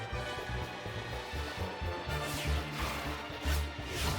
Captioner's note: zip! whoosh!; whoosh! whoosh!